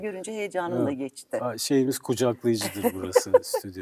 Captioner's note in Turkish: kahkaha